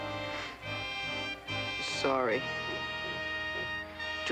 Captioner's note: sobbing